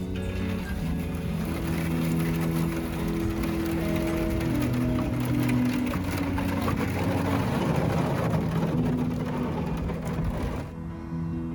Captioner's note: ice crunching